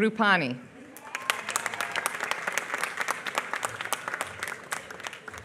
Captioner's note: applause